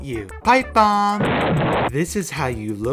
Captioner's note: explosion